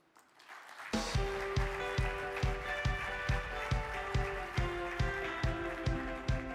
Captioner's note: audience applauding; upbeat music